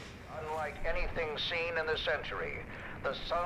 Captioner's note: radio Voice